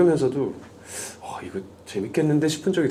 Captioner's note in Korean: 들숨